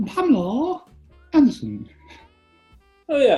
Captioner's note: high pitched